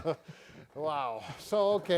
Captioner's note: chuckles